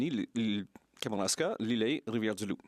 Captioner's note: speaking French